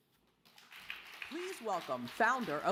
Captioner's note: audience applause